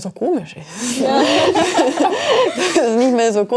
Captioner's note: laughter